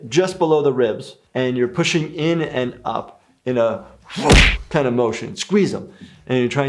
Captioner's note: thump